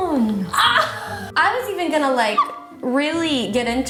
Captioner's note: laughs